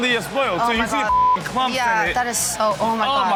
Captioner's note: beep